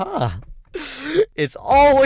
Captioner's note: inhales